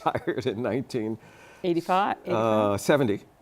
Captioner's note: laughter